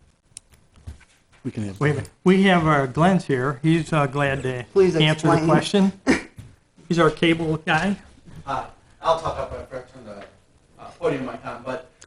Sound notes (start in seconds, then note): 6.7 laughs